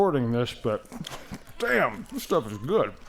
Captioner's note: smacking